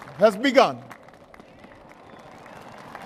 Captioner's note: applause